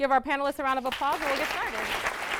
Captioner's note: audience claps